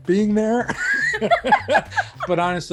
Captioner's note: laughter